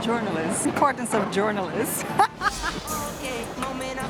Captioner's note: laughs